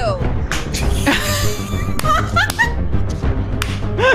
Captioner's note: laughing